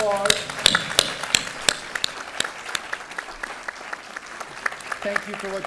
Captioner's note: applause